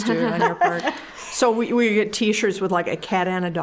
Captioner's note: all chuckling